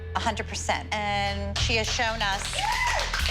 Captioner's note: applause